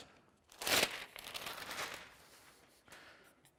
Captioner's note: rustling